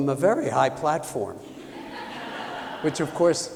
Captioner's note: laughter